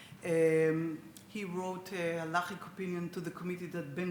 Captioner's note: speaks Hebrew